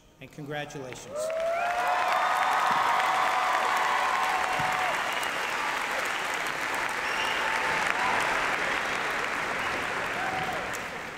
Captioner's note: applause